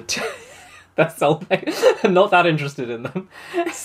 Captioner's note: laughing